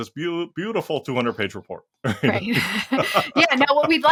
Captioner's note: laugh